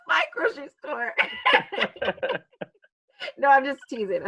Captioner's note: both laughing